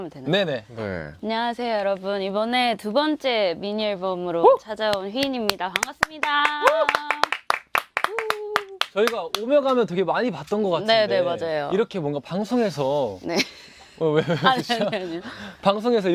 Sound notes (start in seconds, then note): 14.1 laugh